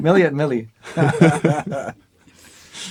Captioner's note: teasing and laughing